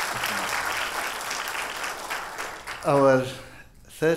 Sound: audience applause

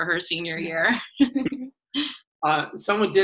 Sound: laughs

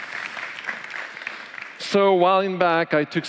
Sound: applause

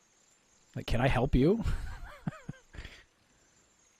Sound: laughing

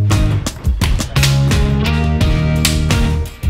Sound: snapping into place

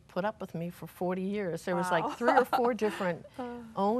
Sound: laughs

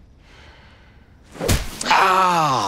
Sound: whack

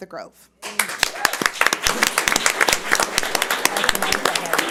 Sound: audience applauds

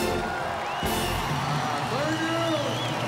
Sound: audience applauding

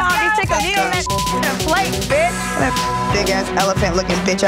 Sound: beep

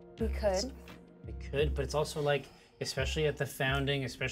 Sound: none

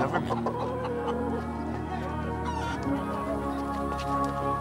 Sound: chickens cluck

